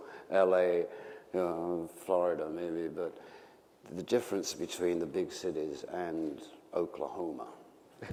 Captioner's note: laughter